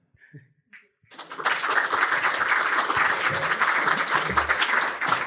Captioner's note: audience applauding